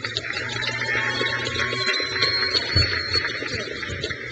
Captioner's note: crowd cheers